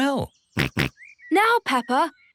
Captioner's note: snorts